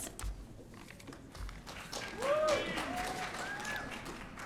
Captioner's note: audience cheering